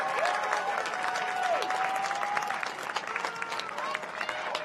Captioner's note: cheers and applause